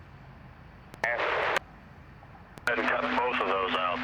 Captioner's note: static